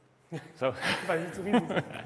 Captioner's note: chuckle